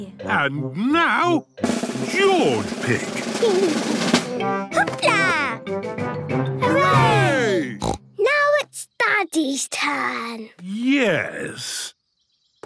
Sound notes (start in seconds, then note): 1.6 drumroll; 7.8 snort